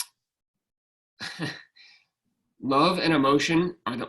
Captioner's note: laughing